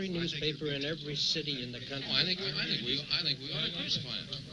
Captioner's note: background chatter from group